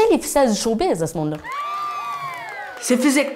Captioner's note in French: acclamations